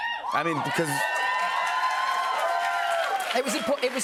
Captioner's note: cheers and applause